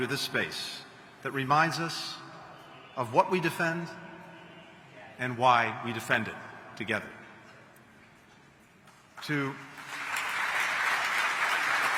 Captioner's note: applause